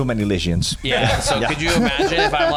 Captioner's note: laugh